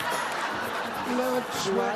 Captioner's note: laughter